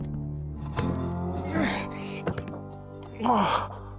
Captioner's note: bill grunts and strains